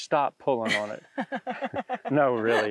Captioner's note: laughs